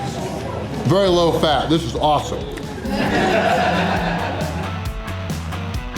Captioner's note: crowd laughter